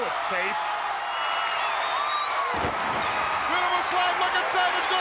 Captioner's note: audience cheering